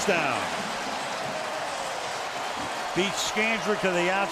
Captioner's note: cheering